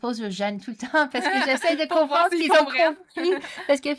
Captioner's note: laughs